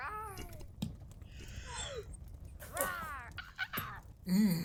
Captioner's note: chokes and gags